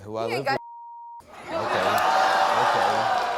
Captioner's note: beep; audience yelling